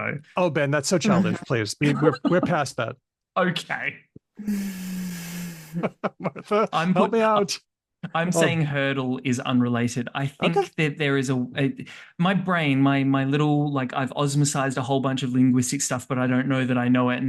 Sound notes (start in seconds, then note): 5.6 laughter